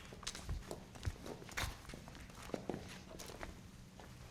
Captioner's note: feet stomping